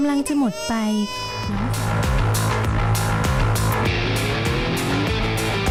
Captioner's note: crying sound